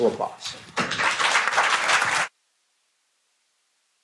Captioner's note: applause